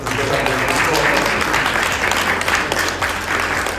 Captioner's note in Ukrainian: оплески